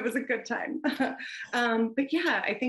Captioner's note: chuckles